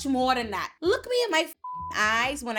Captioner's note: beep